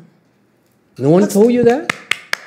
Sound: audience starts clapping

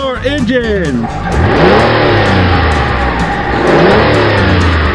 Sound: car engine revving up

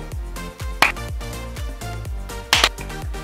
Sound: claps; girls clap

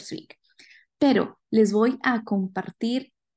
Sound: speaking spanish

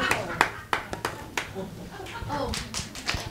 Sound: clapping; students applauding

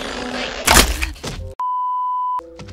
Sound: snaps Neck

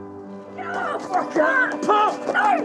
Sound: shouting

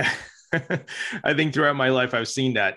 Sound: chuckles

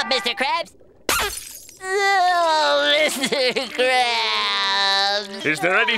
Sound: crying

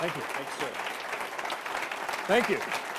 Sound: applause

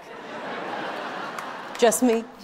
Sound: audience laughing

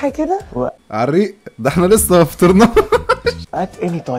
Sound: mocking

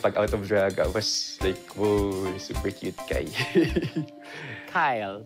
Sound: giggles

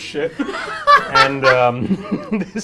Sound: laughs

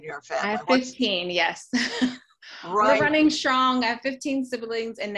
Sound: laughs

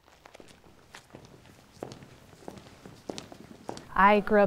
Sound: footsteps tapping

